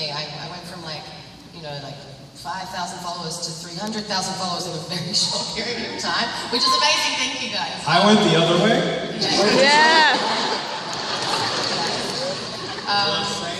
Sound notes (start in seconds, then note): 9.4 laughter